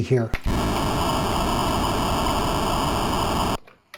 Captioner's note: low, crunchy sound effect